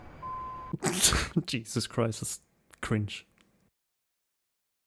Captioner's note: laughs